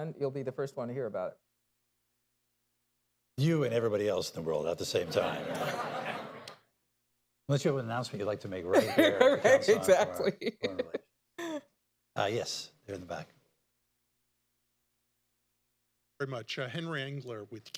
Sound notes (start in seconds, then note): 5.7 laughter; 8.8 laughs